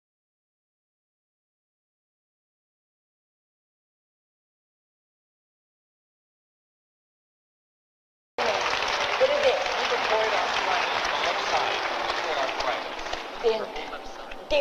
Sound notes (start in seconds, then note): 8.4 applause